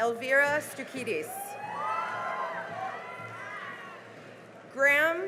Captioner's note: cheering and applause